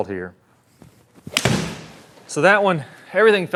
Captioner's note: golf ball thudding